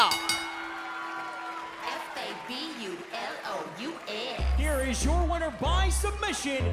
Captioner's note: bell ringing